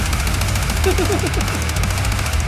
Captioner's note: laughing; upbeat music